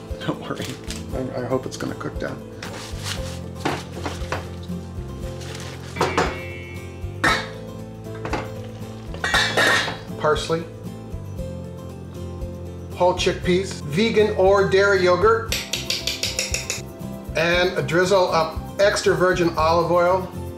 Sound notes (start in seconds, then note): 7.1 pots and lids clattering; 15.6 spoon clanking